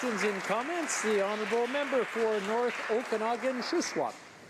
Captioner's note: some Applause